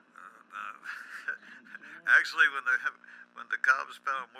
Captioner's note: laughs